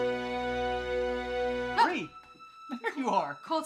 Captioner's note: Bree exclaims